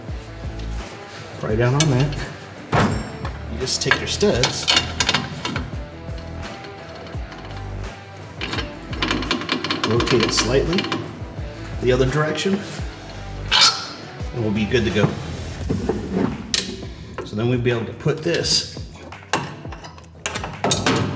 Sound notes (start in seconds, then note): 4.9 metal clattering; 6.0 metal shifting; 8.0 metal groaning; 12.0 metal bolts unsheathed; 15.0 shuffling strut